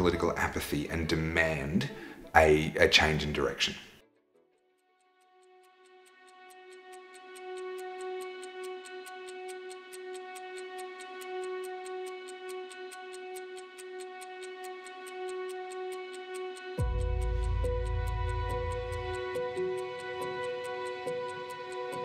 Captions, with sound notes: our political apathy and demand a change in direction? (puzzled music) (clock ticking)